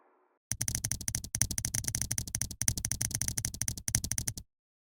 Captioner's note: keyboard clicking